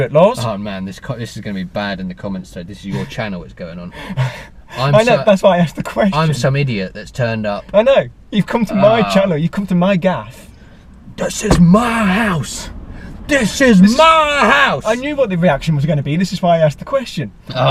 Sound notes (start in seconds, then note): 5.1 laughing